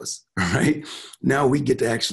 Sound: chuckling

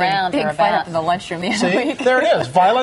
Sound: laughs

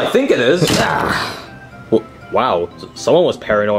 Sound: door bangs

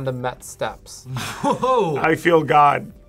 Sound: laughs

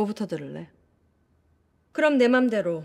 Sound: silent

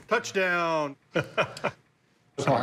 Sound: laughs

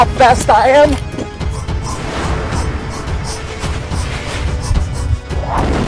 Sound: PewDiePie running/breathing noises; explosion noise

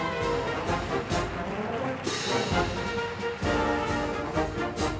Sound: audience applauding

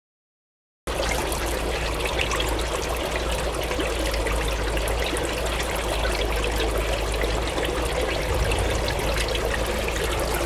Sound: sound of water

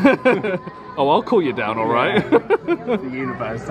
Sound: laughs

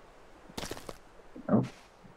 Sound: squelch

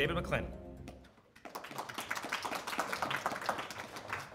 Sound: audience applauds

